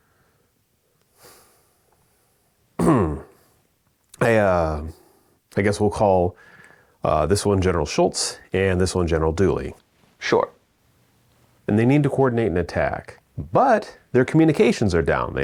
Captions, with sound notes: (clears throat) - I guess we'll call this one General Schultz and this one General Dooley. - Sure. - And they need to coordinate an attack, but their communications are down.